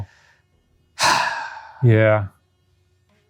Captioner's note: Ryan sighing